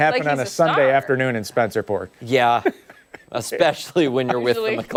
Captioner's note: laughter